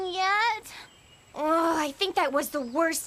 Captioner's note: Sadie Yawns